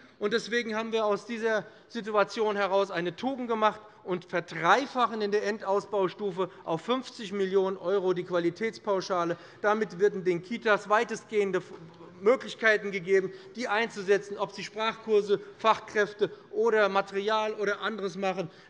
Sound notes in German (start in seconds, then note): none